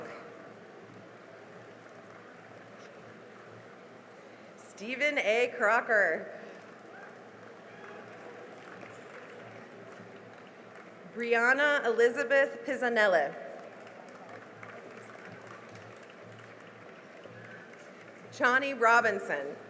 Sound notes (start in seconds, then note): 1.0 cheering and applause; 6.6 cheering and applause; 13.5 cheering and applause